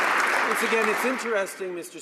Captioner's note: some Applause